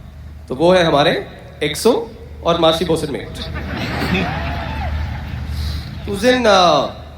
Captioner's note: loud Laughter and Hooting